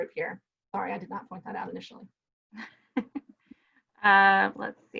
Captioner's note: chuckles